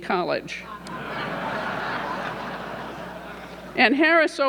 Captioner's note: audience laughing